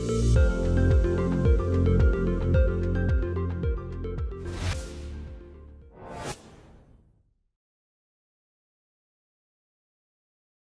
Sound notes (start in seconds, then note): 5.9 screen swooshing